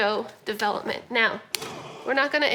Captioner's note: grunt